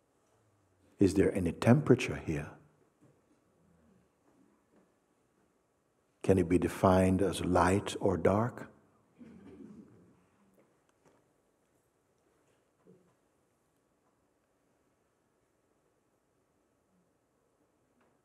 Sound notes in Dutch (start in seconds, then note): 13.2 stilte